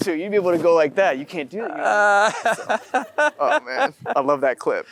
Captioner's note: Matthew & audience laughing